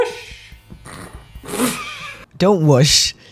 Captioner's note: snort